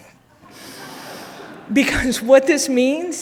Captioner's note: audience laughing